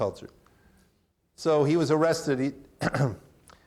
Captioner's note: clears throat